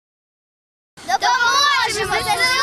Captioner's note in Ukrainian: діти промовляють кричалку